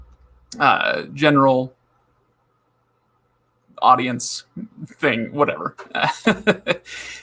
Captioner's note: laughs